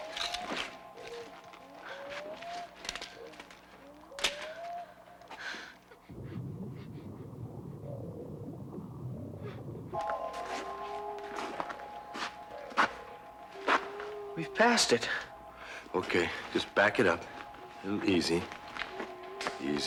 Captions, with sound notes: (sticks clattering) (Cha-Ka panicking) (geyser gurgling) - We've passed it. - Okay, just back it up real easy.